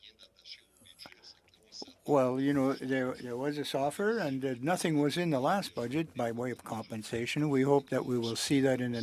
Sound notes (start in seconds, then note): 6.3 speaking french